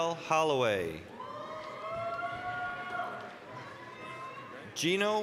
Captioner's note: applause, cheering